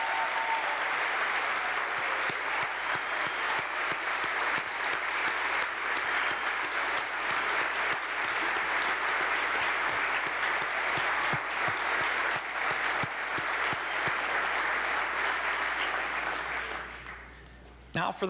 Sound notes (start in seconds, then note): 10.9 applause